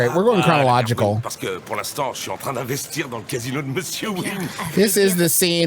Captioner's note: speaking in French